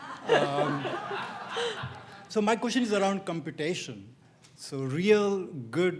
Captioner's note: laugh